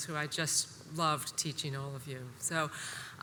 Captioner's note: none